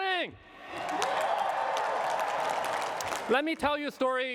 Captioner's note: cheering and applause